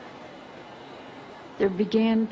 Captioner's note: female voice